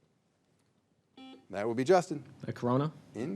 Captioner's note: signal beeps